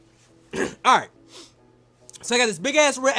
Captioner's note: clears throat